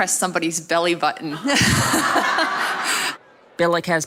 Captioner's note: laughter